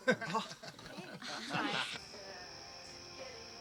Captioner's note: laughing